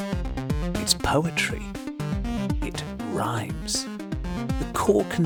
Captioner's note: rhymes